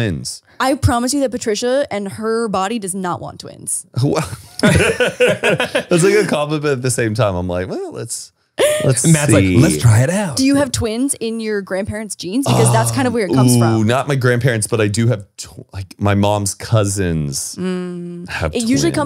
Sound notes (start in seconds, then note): 4.6 everyone laughs